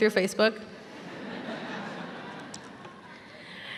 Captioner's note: laughter